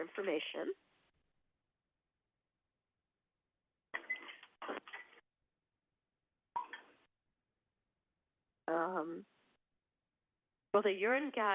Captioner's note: silence